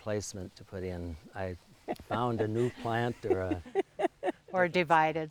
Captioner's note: laughing